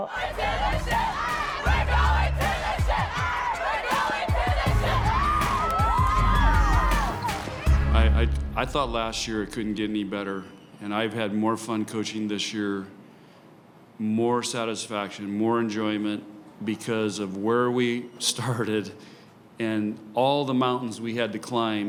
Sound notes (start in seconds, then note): 5.9 group cheering